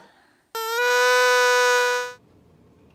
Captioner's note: noise-maker blows